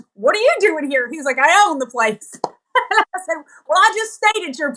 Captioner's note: laugh